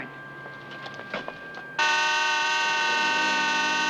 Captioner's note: horn blaring